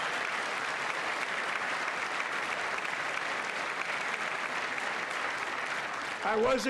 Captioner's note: applause